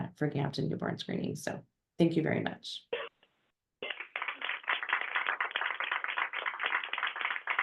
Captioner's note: applause